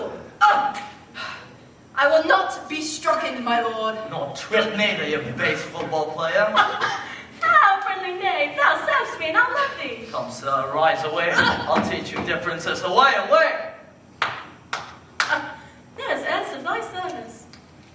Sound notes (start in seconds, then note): 14.2 clapping